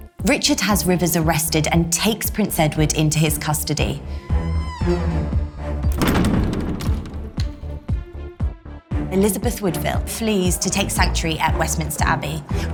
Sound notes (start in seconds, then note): 4.3 door closing and creaking